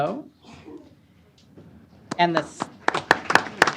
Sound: applause

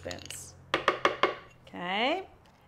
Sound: spoon banging

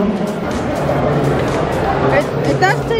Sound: nom

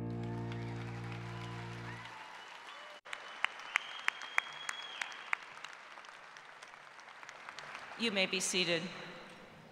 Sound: applause

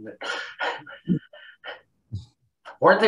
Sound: chuckle

